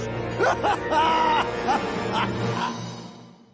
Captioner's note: evil laughter